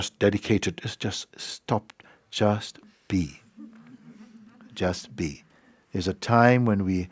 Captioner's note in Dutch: gelach